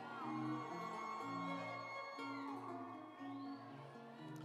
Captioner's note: audience applauds